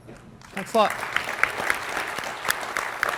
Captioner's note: applause